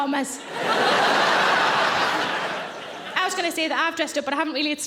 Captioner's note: audience laughing